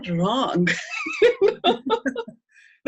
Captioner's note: laughing